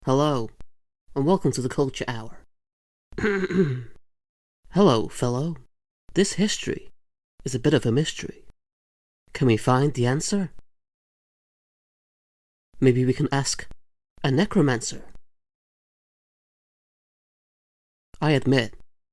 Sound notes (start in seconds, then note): 3.2 preparatory cough